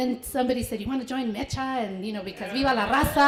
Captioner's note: foreign language